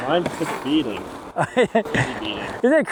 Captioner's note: laughing